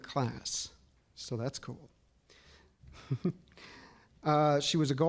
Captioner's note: chuckling